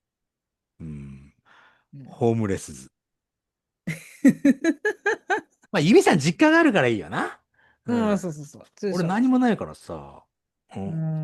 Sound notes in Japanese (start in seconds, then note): 4.2 笑い